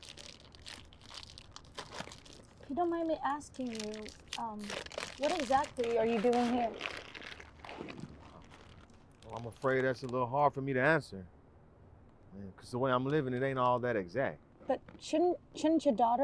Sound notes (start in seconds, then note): none